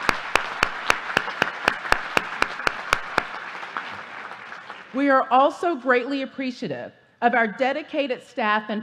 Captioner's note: applause